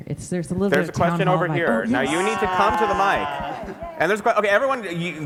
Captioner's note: cheers